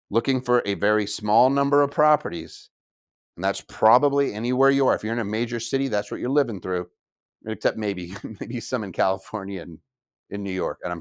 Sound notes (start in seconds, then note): 8.0 chuckles